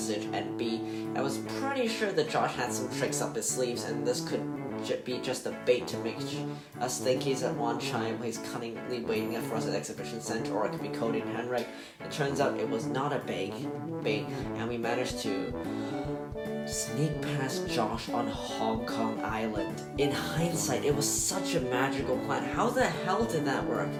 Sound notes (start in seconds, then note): 15.6 deep breath